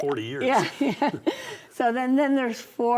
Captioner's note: both laugh